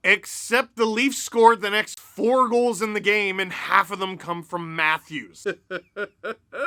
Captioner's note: laughter